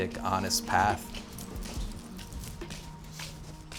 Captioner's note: footsteps